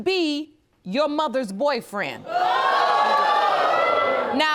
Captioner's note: audience groaning